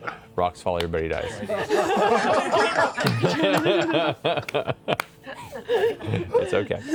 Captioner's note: laughter